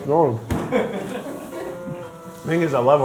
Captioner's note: crew laughing